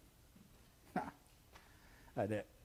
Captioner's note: scoffs